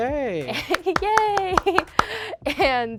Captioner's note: clapping; giggling